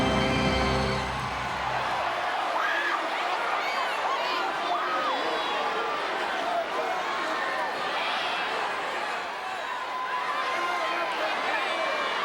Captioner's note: crowd cheering